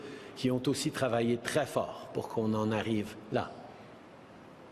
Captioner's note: speaking French